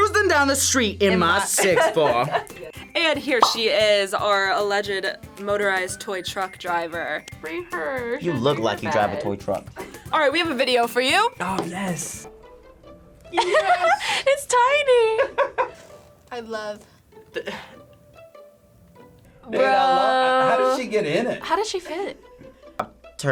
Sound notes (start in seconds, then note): 9.7 React laughs; 13.3 laughs